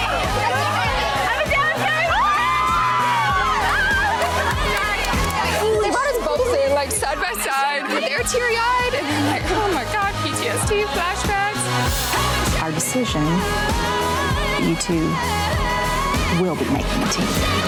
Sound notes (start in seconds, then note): 3.0 women cheering